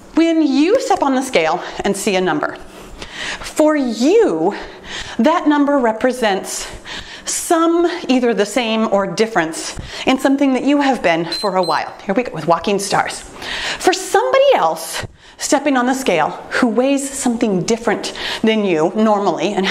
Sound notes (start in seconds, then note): 11.2 timer beeps